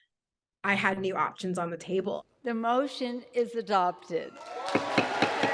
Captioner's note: crowd cheering